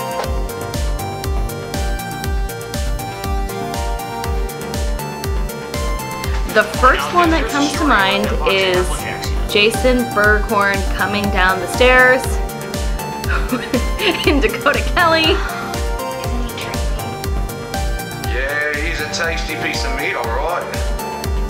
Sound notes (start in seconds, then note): 0.2 upbeat techno music; 13.2 laughs; 21.2 upbeat techno music